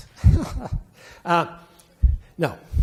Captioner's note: laughing